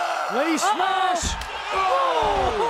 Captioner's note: crowd cheering